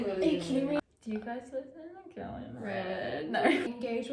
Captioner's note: laughs